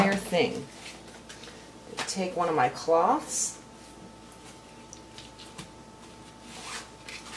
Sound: wrapping fruit

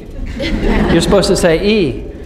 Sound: laughing

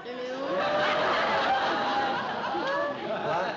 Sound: laughter

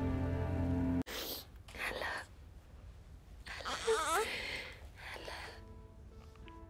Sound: whispers

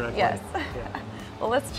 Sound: laughs

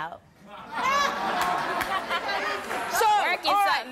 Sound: audience laughing

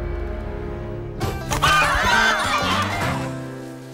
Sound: clucking

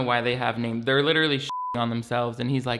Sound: beep

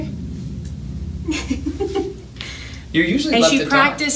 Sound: laughing

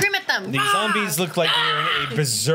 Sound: screams

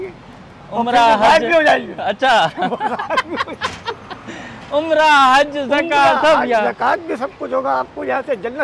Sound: laugh

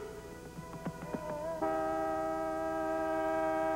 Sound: honking

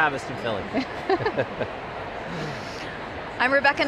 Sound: laughing

